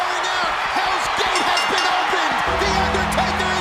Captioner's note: bell dinging